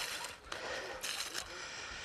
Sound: he breathes heavily

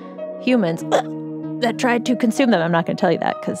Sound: coughs

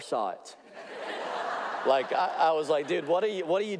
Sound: audience laughing

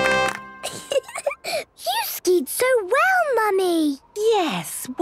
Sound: triumphant music; giggling

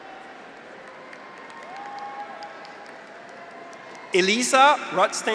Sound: audience applauds; graduates cheer

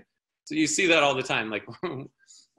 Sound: chuckling

